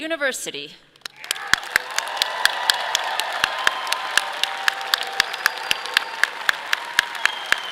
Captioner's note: audience applauding; clapping